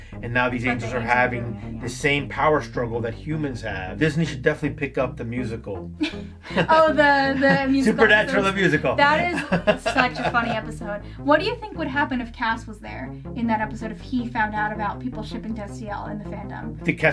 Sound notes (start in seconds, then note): 6.0 laughs